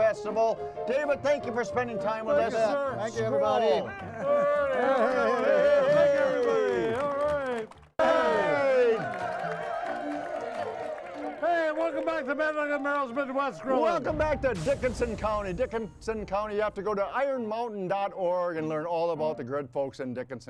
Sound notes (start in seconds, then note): 3.9 laughs; 4.0 speaking in foreign language; 7.8 audience applauding